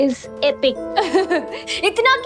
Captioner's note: laughing